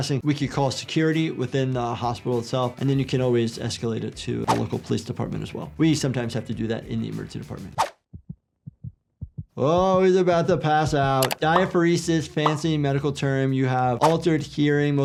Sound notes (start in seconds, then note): 9.2 heart throbbing